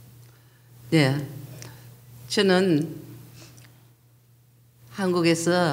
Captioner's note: speaking foreign language